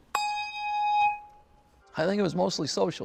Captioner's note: nats: bell ringing and damping